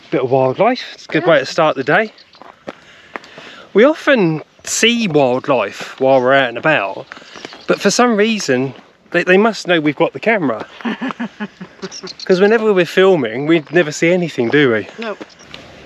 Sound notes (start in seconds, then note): 10.7 laughter